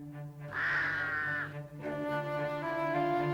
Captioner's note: cawing